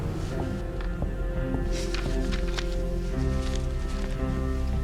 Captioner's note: footsteps thudding